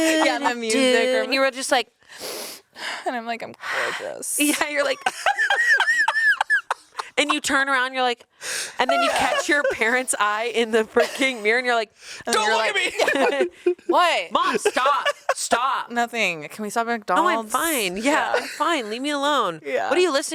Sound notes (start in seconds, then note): 0.0 vocalizes; 4.7 laughs